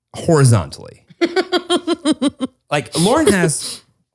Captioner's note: laughs